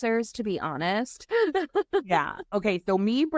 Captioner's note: laughing